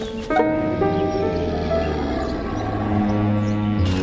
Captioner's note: low growling